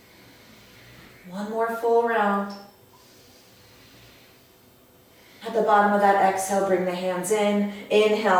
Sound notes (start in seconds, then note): 0.0 audible breath; 2.9 audible breath